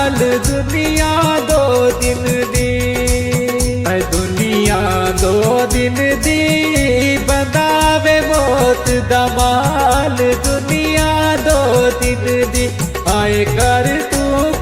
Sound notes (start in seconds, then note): none